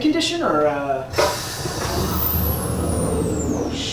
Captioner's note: electronic gate opens